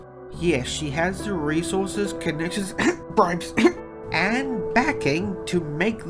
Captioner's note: cough